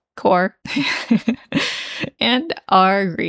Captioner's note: laughing